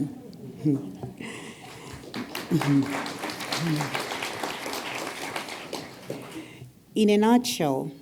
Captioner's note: applause